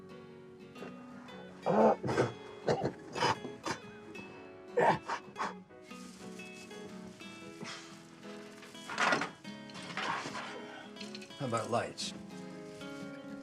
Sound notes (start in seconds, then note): 1.8 Isaac gasps and coughs; 6.7 gentle bright music continues